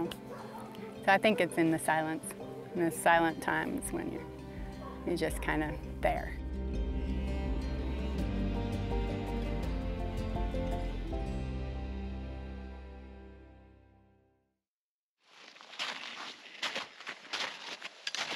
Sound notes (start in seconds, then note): 8.3 snow crunching; 11.9 whispering